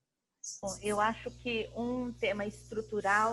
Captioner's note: speaking portuguese